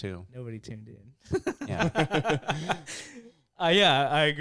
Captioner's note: laughing